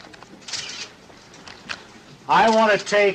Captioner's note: camera clicking